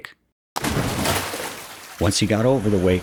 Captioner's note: splash